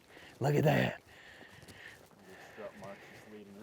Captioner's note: none